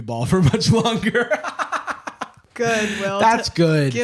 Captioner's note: laughs